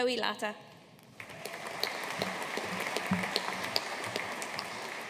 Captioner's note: audience applauding